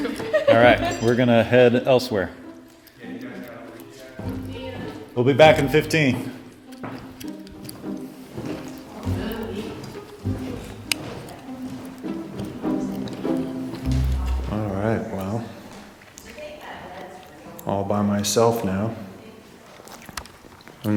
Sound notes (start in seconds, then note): 0.0 laughter; 8.6 chatter